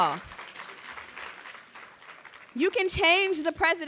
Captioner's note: clapping